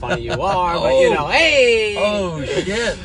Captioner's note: laughs